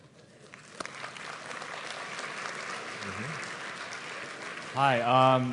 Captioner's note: applause